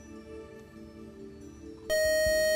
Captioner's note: time-out buzzer